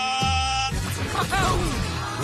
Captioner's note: cries